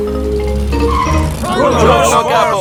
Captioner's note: brakes squeal